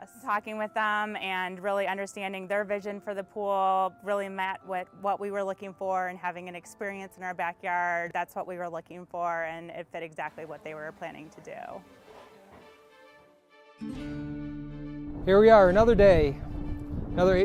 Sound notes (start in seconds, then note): none